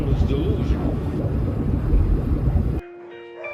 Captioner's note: mechanical sounds